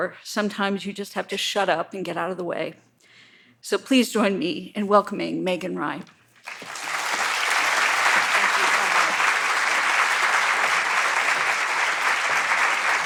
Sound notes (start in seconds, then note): 6.4 audience applauds